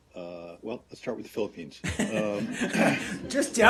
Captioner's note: laughter